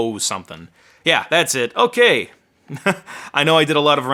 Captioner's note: laughing